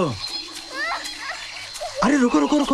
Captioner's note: Durga crying